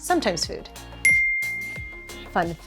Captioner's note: ding!